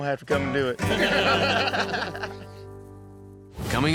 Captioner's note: all laugh